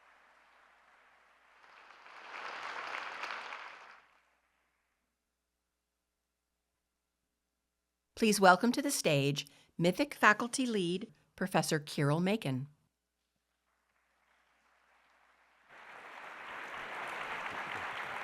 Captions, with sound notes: Please welcome to the stage MITHIC faculty lead, Professor Keeril Makan. [APPLAUSE]